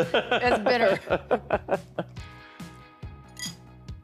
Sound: laughing

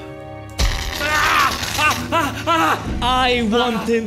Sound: groan

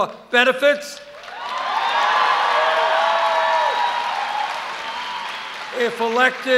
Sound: cheers

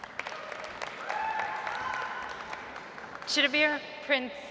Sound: audience applauds

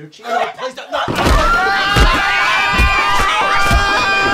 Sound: screaming together

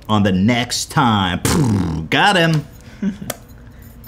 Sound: lip trill

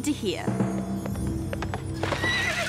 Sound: whinnies

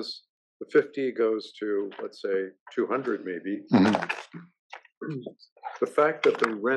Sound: cough

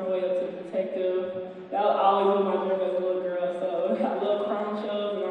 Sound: chuckles

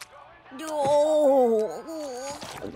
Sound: groaning

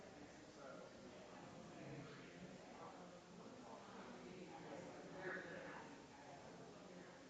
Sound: people chattering distantly continues

